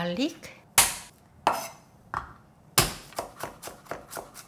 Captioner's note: garlic snaps